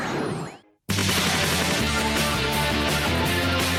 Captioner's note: none